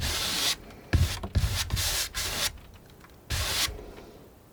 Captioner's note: scratching